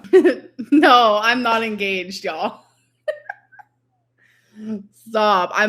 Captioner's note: laughs